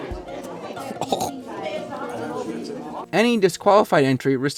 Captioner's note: clears throat